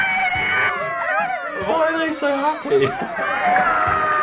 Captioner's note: creatures cheering; creature screaming